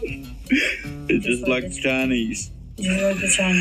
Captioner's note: laughing